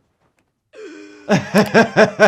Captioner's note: Lois gasping; laughing